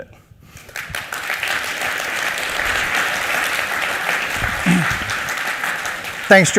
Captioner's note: applause